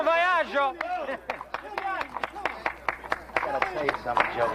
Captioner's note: clapping